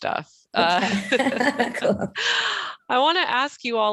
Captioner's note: laughter